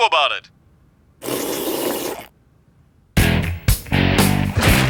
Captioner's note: slurping